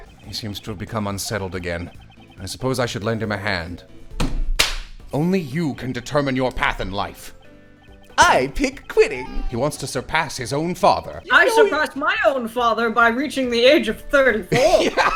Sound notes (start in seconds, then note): 4.5 slap; 14.5 laughter